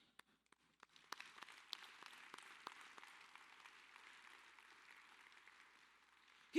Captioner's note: applause